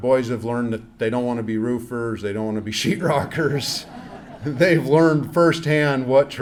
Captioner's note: laughs